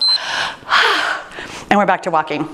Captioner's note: timer beeps; sighs